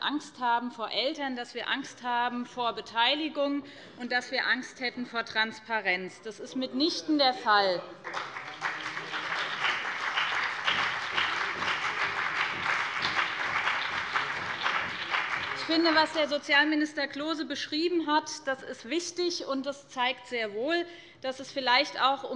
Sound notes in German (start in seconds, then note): 8.0 Beifall BÜNDNIS 90/DIE GRÜNEN und CDU